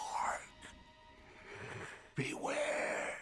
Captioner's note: wheezes